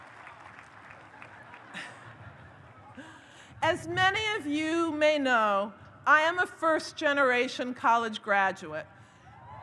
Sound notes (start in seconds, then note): 1.4 audience laughs; 9.4 audience cheers